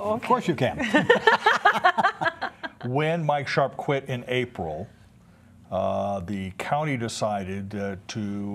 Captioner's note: laughter